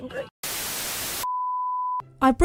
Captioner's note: static